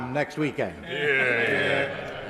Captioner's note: members laugh